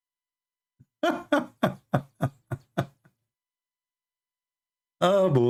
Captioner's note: Ketawa